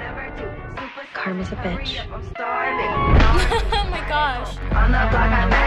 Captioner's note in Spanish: música de hip hop; risas